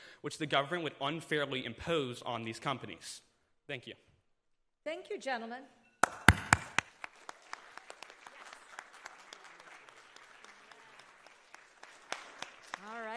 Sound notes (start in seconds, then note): 6.0 audience applauding